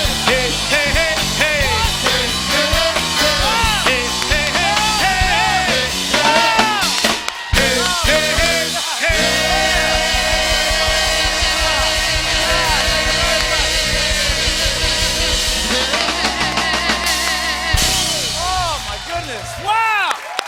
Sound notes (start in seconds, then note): 10.0 cheers and applause; 20.2 cheers and applause